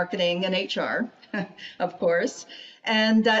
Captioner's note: chuckling